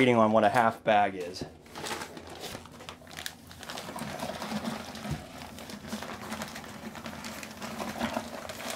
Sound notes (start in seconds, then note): 4.1 powder sloshing